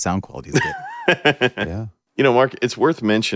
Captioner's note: laughs